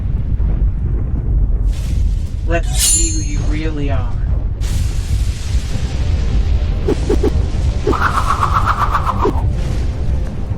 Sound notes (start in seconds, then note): 7.8 wind whooshing